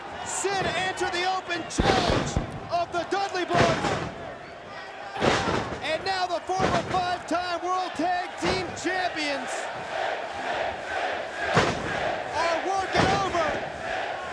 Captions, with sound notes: Sid answered the open challenge of the Dudley Boyz. And now the former five-time World Tag Team Champions. (crowd chants "Sid") Are working over.